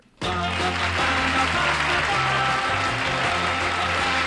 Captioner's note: applause